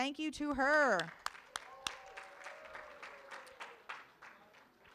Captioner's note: room applauds